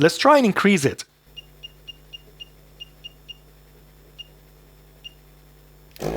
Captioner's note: beeping